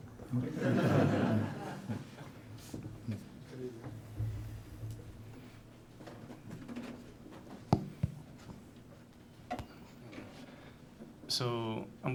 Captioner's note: laughter